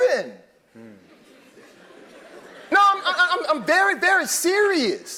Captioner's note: laugh